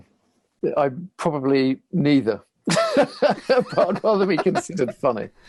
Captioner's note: laughing